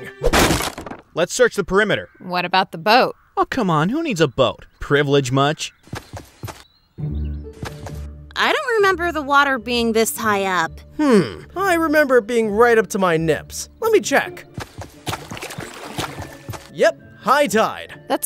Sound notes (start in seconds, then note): 0.3 wood cluttering; 5.8 footsteps tapping; 14.5 water splashing